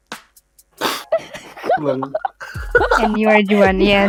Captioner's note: giggles